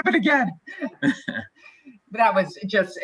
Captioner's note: laughs